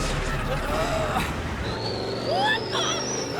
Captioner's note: grunting